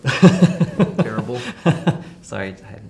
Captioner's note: chuckles